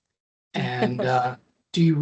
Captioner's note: laughing